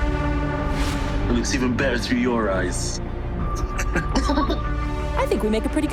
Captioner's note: laughs